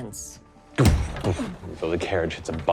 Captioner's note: imitates carriage thudding